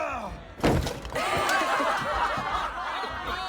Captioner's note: laughing